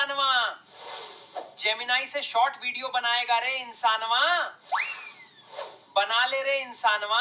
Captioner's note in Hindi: नाक से की जाने वाली आवाज़